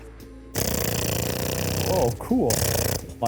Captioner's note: imitates gun